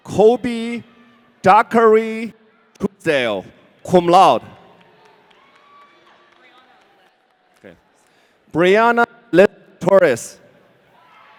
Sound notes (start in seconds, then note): 4.8 audience cheering; 11.1 audience cheering